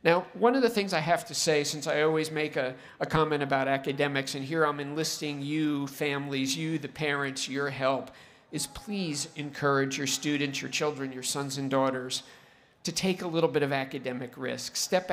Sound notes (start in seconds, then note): none